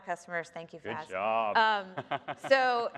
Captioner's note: laughs